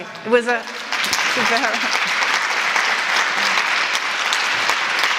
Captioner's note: applause